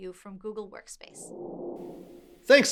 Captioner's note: whoosh